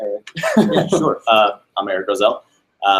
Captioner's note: laughs